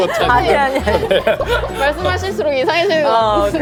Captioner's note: sob